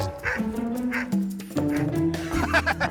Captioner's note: laughing